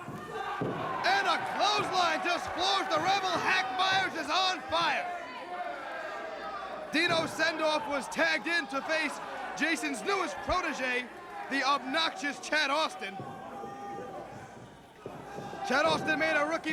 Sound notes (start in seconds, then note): 0.3 crowd chatter; 10.3 crowd chatter